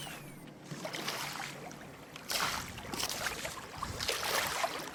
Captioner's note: splashing in body of water, underlying